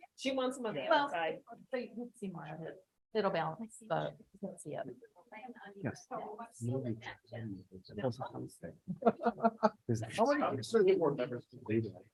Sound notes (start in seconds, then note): 6.0 group chattering; 9.0 man laughs